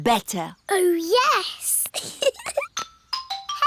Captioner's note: giggles